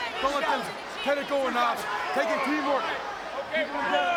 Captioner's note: overlapping chatter